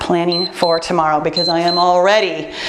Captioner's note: timer beeps